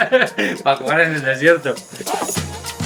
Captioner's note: laughs